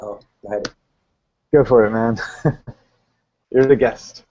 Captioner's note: laughs